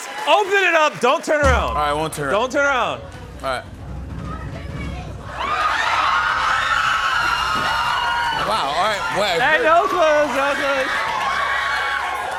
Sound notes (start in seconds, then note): 5.2 cheers and applause